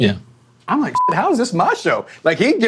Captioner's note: beeping